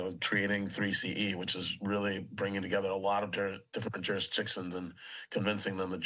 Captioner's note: none